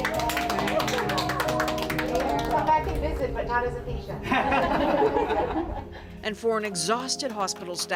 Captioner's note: applause